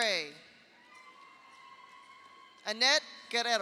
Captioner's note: audience cheers; audience applauds